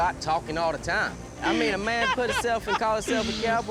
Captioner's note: laughing